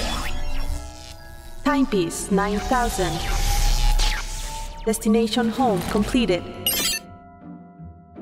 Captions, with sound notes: (robot voice) HYPESE 9000. DESTINATION HOME, COMPLETED. (soft beep)